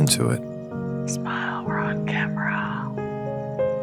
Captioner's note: whispers